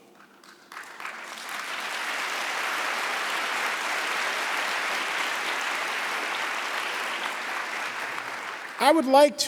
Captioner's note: applause